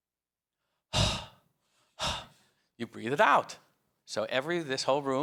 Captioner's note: exhales sharply